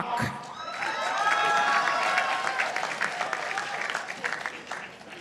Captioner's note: participants applauding